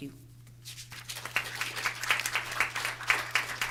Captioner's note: applause